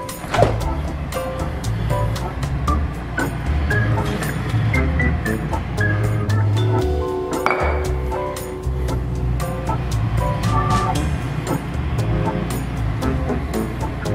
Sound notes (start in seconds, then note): 0.0 shouting; 0.2 door opens; 7.4 bangs jar down